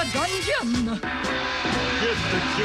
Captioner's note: gong